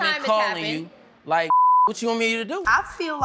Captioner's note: beep